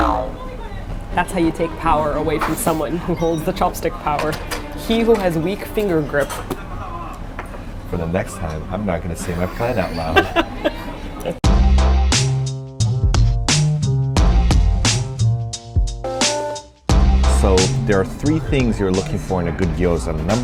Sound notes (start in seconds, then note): 9.3 laughs; 13.5 synth music